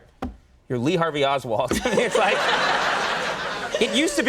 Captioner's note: audience laughs